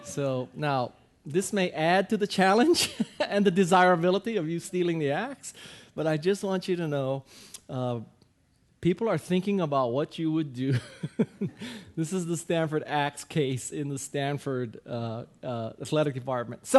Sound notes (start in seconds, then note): 10.6 guy laughing